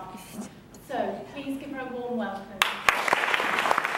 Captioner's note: audience clapping